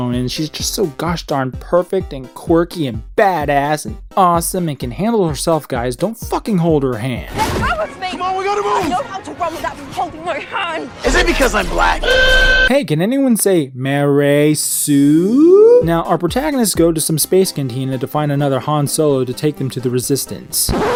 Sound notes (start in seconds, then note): 11.7 emergency horn; 20.6 record scratch